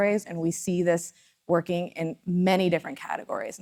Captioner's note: none